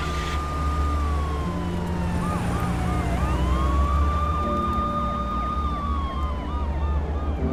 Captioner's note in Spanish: Sirenas